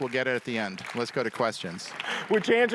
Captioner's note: audience applauding